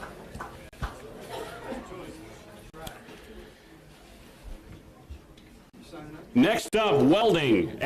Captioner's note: applause